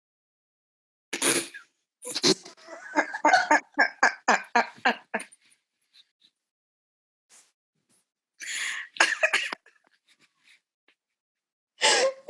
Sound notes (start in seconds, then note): 2.2 helpless laughter